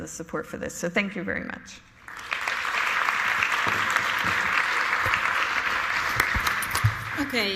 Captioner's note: applause